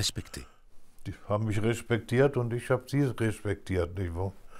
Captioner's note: German spoken audio